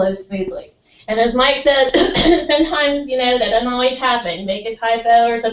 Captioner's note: cough